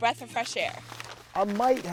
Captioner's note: paper crumpling